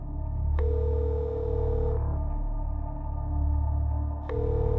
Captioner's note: phone ringing